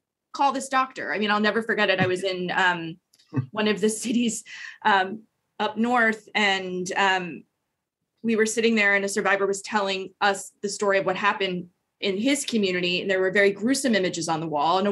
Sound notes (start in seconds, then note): 3.3 chuckles